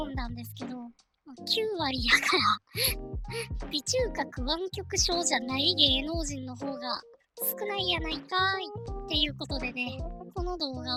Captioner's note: laughs